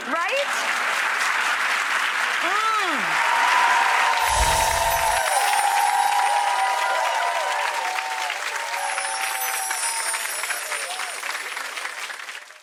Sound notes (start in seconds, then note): 0.9 applause; 4.2 musical chimes